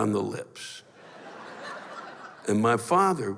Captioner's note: laughter